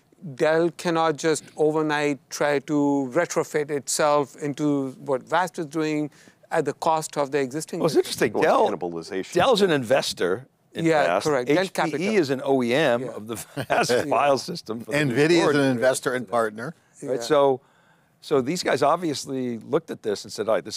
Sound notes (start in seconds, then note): 13.4 chuckles